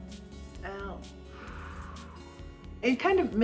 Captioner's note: short sniffs; deep exhale